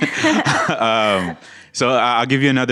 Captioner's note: laughter